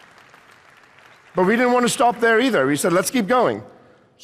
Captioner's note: applause